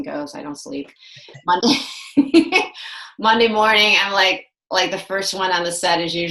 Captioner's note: laughs